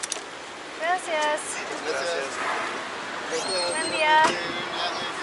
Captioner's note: speaking Spanish